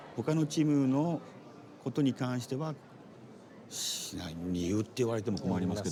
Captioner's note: speaking Japanese